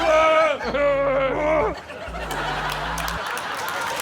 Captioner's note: shouts